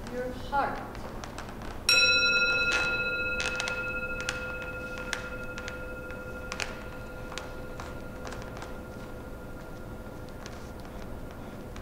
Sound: gong

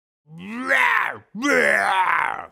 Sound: impressive roar

